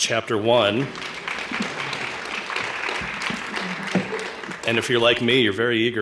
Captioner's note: applause